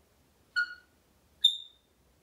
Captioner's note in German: tweet sound